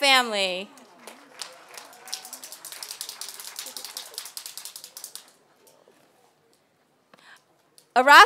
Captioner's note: applause